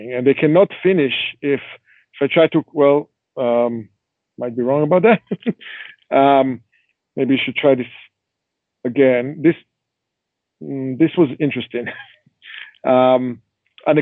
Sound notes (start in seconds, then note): 4.5 chuckling